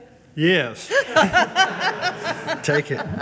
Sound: all laugh

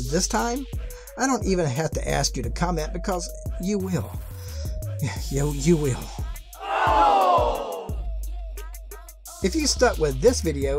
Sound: sigh

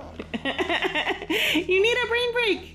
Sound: laughing

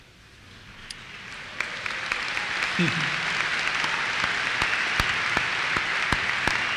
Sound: applause

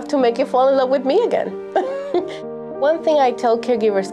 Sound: laughs

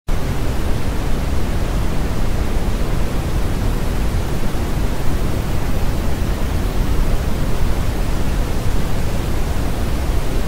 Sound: brown Noise

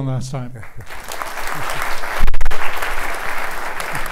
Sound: applause

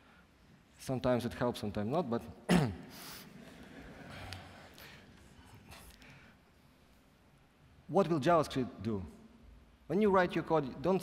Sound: laughing

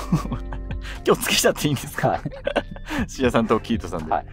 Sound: laughing

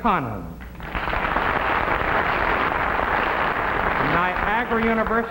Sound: audience clapping

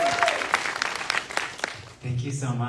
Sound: audience applauding

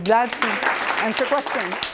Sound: clapping

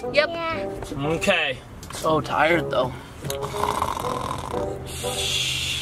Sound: snores

